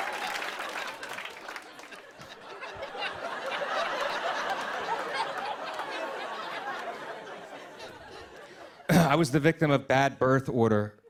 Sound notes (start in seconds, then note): 0.0 cheers and applause; 0.0 applause; 3.0 laughter